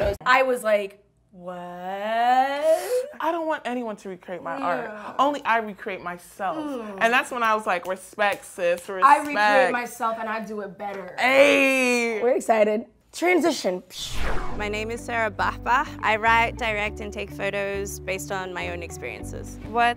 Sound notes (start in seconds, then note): 13.9 swooshing